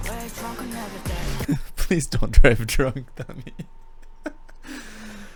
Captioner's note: laughing